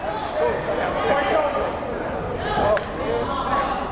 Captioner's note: yelling